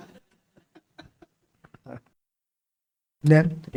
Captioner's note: laughs